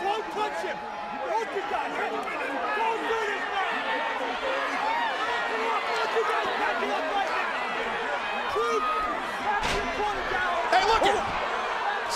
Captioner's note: crowd chatter